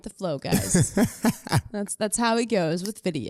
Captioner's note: laughs